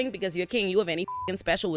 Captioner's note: beep